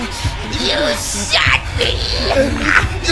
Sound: struggling

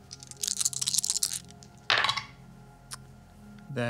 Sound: dice rattle on the table

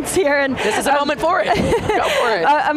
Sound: laughs

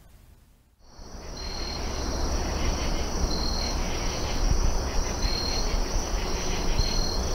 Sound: insects chirping; birds squawking

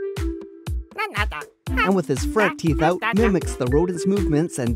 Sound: Banna-Chipmunk noises; Banna-chipmunk noises

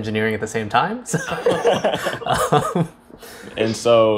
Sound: laughs

